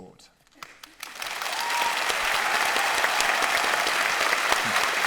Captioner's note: audience applauding